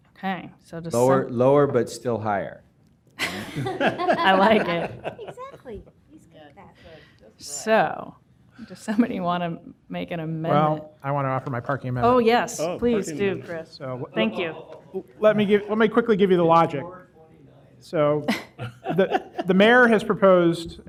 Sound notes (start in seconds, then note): 7.0 laughter